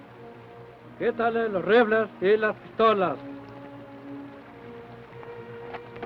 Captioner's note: Chief speaks foreign language